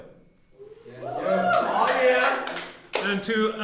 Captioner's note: class cheering